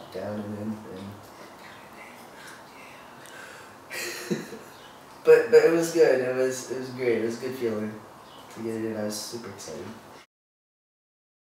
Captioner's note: laughs